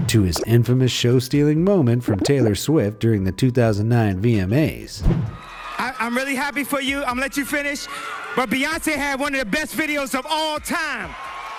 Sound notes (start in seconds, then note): 5.3 crowd cheers; 10.2 audience cheers and applauds